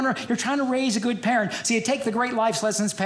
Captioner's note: none